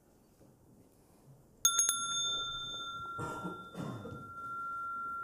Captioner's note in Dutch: rinkelt bel